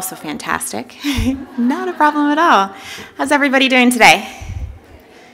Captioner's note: laughter